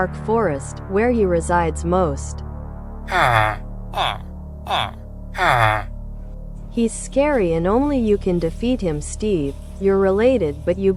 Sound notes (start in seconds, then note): 3.1 villager noises